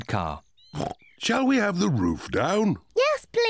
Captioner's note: oinks